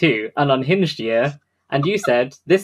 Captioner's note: laughs